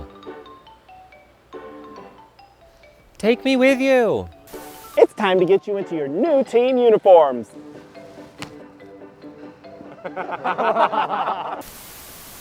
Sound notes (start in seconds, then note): 0.2 playful music; 8.2 snaps; 9.8 everyone laughing